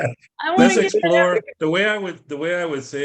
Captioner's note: laughter